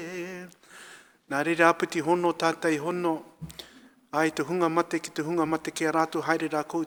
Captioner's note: speaking in foreign language